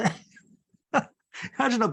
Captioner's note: laughs